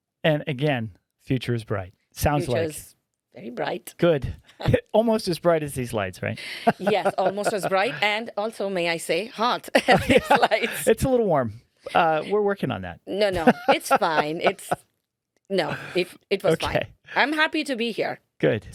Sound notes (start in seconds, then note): 6.4 laughing; 9.7 laughing